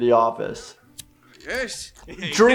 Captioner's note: lighter flicking; chuckles